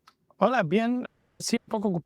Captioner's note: spanish